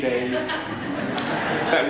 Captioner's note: people laugh